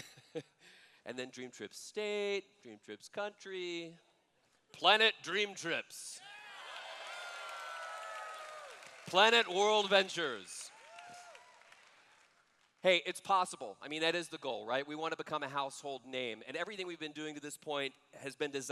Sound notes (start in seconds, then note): 6.2 cheers